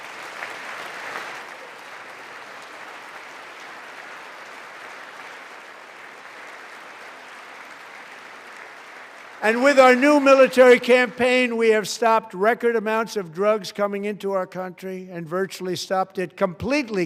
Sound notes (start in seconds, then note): 2.9 applause